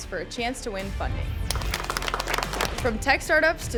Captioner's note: panel clapping